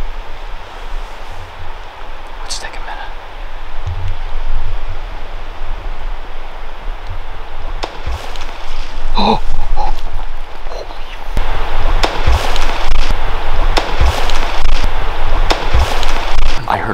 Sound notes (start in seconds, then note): 8.2 water cracks; 9.1 exclaims; 12.1 water cracks